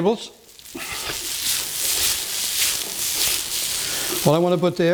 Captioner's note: sizzling